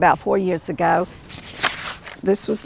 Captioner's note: pages shuffling